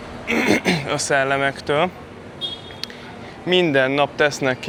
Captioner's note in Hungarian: köhögés